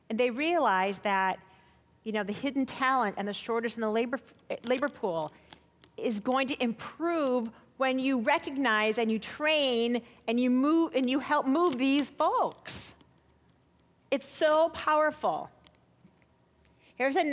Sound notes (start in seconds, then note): none